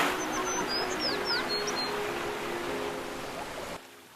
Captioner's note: birds chirping